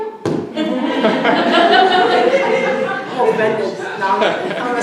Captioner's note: audience laughing